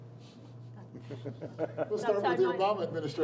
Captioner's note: laughing